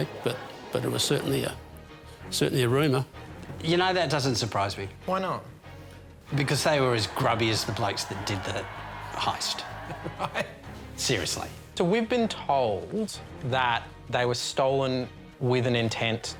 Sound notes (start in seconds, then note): 9.9 laughs